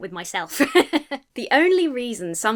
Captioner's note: laughs